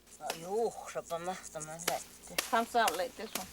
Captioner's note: woman speaks in native language